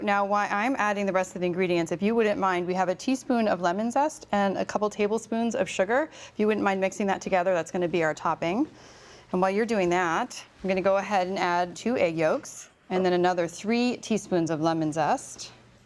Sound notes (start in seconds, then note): none